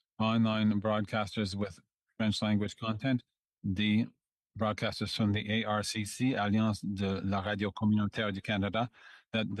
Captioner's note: speaking French